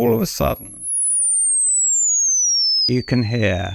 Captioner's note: high pitched sound